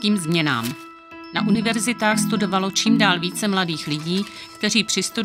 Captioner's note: jedoucí vozíček